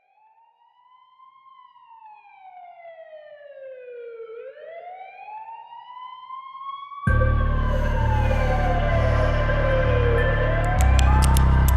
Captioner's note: sirens